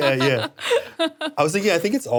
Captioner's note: laughs